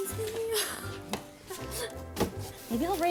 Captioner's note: laughs